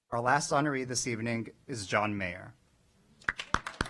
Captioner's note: applause